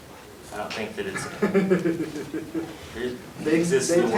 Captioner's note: chuckles